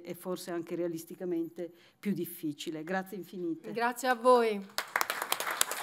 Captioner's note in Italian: Applauso